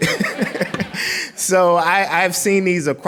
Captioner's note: laughing